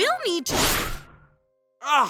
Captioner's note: zoom